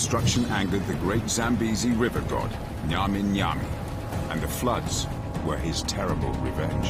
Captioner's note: intense music; water rushing